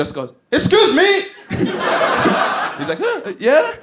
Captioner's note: laughs